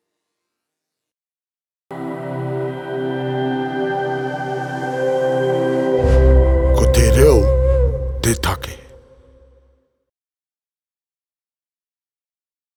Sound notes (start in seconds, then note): 2.0 speaks Te Reo Māori